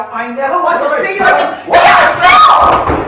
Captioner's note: banging